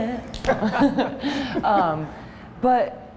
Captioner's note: chuckle